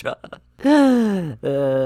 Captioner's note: laughs; exhales